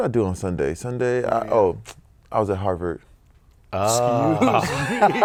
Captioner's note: laughs